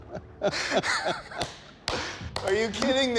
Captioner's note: applause